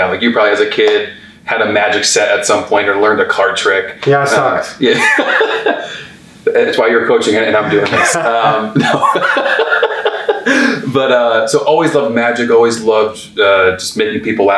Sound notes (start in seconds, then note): 4.8 laughs; 10.4 laughs